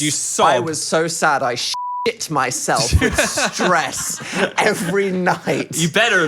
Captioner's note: beep